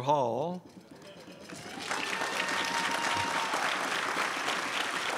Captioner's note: crowd applauds